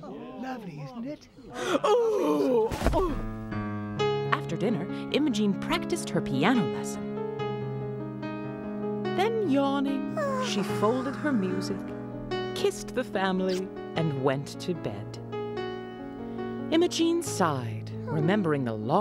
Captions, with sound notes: LOVELY, ISN'T IT? ( gasps, falls to floor )